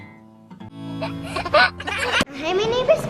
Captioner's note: gentle guitar music; giggles